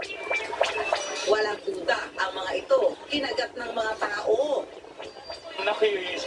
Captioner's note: insects